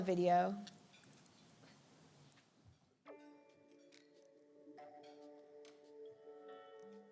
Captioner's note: none